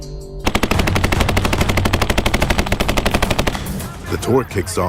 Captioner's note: weapons firing